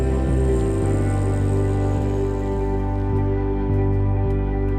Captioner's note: laughs; plane engine revs